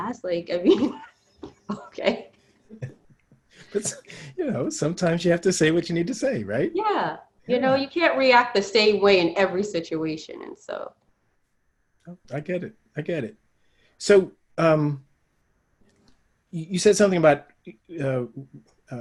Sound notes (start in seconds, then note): 1.6 laughing